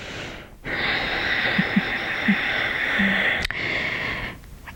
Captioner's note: breathing out